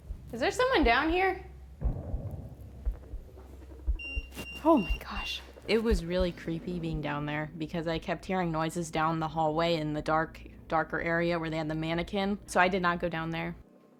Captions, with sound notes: Is there someone down here? Oh, my gosh. [EMF beeping] It was really creepy being down there because I kept hearing noises down the hallway in the dark, darker area where they had the mannequin. So I did not go down there.